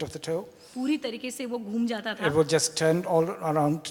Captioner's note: speaks foreign language